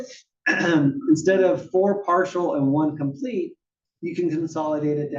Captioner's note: cough